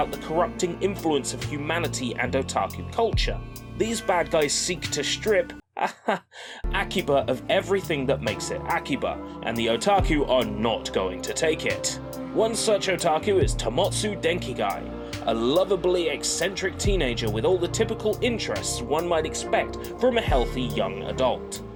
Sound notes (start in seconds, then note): 5.7 haha